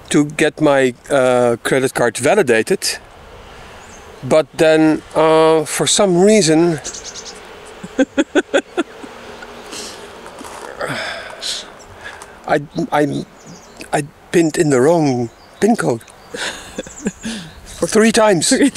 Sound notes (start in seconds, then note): 7.7 laughing